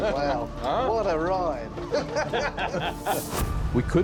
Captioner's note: laughter